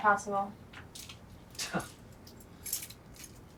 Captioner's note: scoffs